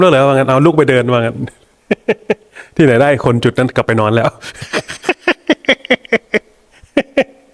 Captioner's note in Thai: เสียงหัวเราะ